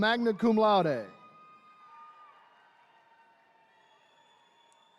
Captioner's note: attendees cheering